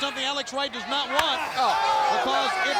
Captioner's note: blows thudding